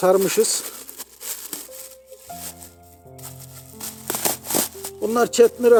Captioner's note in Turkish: poşeti açarken çıkan hışırtı sesleri